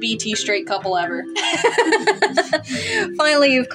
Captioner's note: laugh